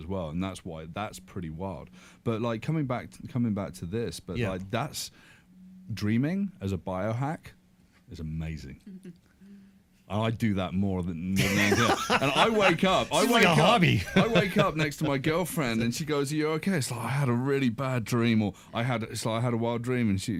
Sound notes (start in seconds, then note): 8.9 chuckles; 11.4 laughs